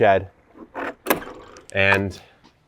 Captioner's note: door creaking